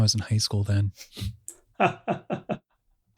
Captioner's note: laughter